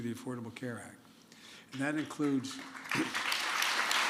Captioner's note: applause